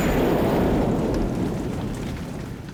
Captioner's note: thunder